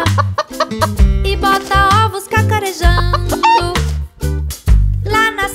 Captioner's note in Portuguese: som de galinhazinha; som de galinhazinha